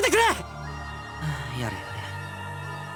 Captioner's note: sigh